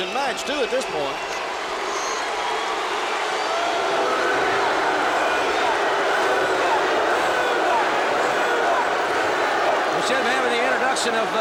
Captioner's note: crowd chatter